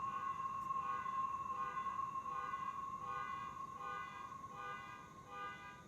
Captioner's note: distant car alarm honking